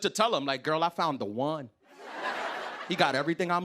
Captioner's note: laughter